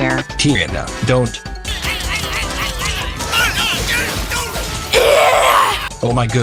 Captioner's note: exclaiming and grunting; straining